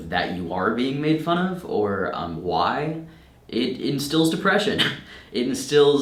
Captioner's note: chuckles